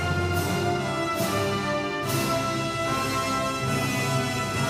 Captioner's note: none